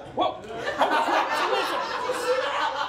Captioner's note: audience laughs